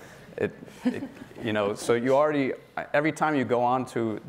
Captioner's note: laughing